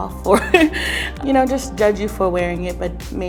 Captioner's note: laughs